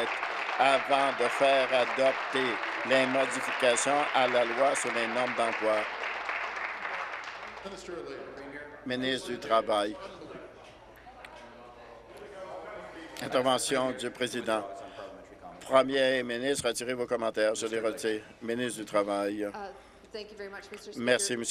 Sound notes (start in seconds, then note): 3.6 applause